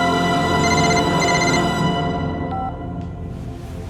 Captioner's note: phone ringing